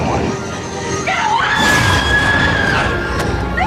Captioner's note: screams